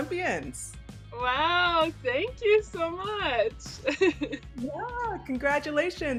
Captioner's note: laughing